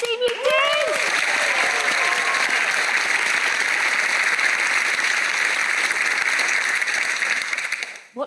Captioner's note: applause